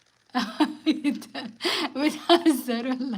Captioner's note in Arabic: ضحك